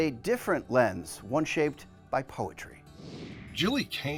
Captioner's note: screen whooshing